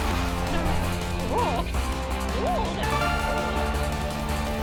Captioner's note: Bertha grunting